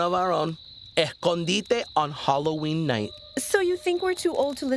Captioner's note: speaking Spanish